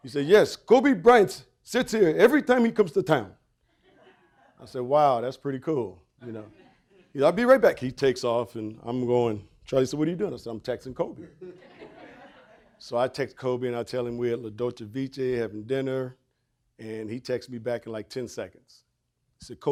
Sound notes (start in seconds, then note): 3.7 audience chuckling